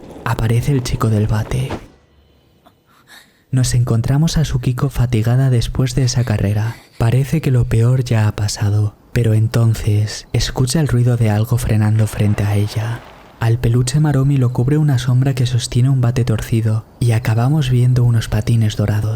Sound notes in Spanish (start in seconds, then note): 1.7 golpe